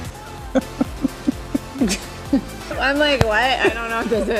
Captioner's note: laughs